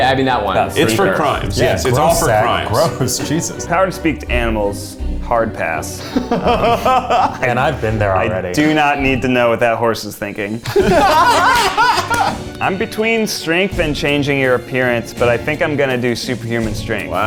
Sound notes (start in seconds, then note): 5.9 laughs; 10.6 all laugh